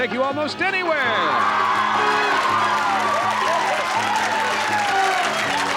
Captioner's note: laughter, cheering, and applause